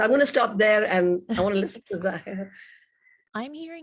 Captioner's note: chuckling